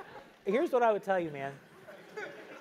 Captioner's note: laugh; laugh